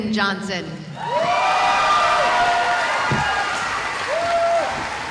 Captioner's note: cheering